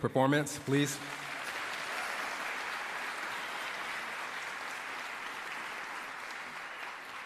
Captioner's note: applause